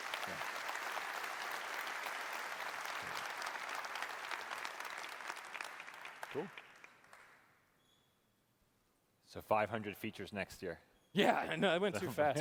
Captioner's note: applause